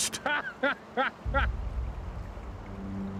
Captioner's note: manuel lisa laughing